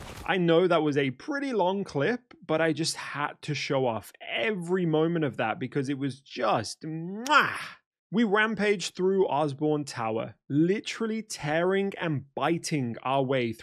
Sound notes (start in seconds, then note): 7.2 mwah